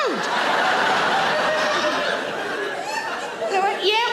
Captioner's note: audience laughing